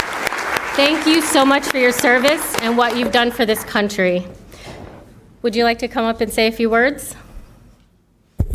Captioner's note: applause